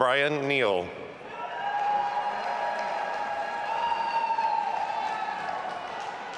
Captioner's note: audience applauding and cheering